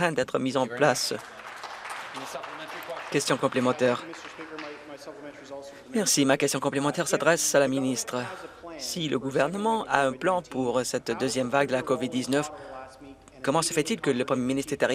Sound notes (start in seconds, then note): 3.8 some Applause